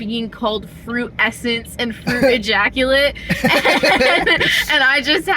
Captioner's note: laughter